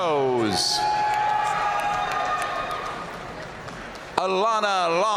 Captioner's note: audience cheering and applauding